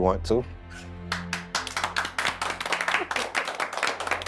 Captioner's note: all clapping